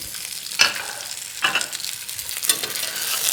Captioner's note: sizzling sounds